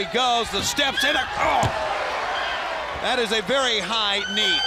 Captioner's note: crowd cheering